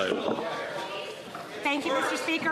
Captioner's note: some Applause